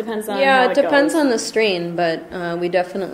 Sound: voiceover

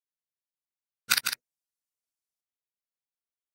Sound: sound of robot

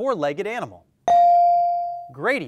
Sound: bell dings

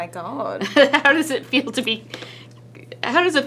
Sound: laughs

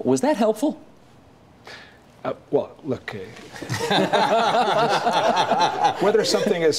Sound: laughter

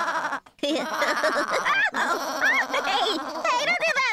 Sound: bleating; giggling

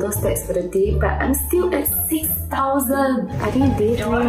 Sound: steps

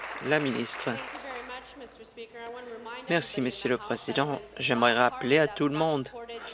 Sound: applause

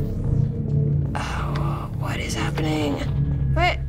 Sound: hushed

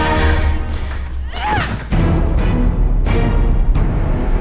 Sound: suspenseful dramatic music; gasping; screams; suspenseful dramatic music

